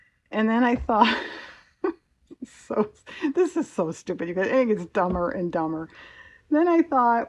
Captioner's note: laughs